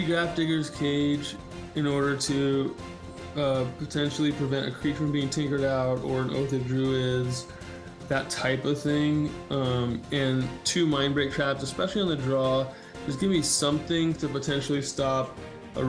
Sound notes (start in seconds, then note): none